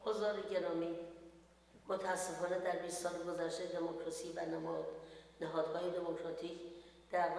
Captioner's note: speaks in foreign language